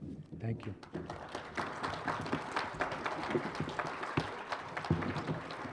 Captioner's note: applause